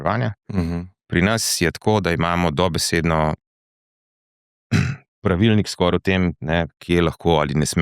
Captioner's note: coughing